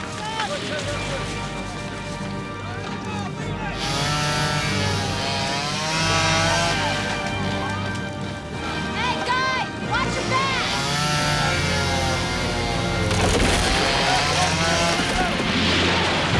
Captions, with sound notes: (saw buzzing) - Hey guys, watch your backs. (wood cracking)